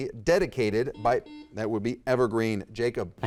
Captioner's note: buzzer dings